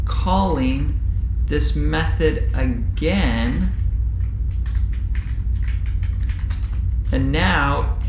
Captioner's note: keyboard typing sound